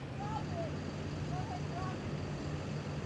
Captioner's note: shouting